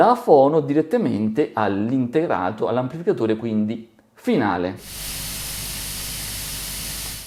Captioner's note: weak hiss